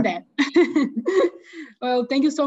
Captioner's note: chuckles